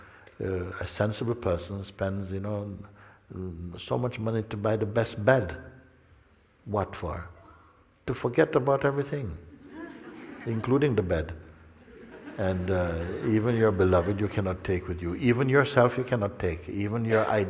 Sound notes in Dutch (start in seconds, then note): 11.8 gelach